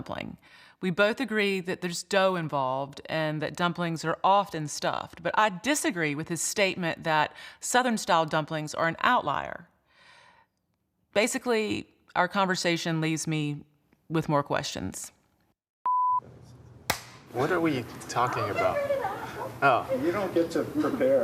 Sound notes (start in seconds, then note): 15.3 clapping; 15.8 beeping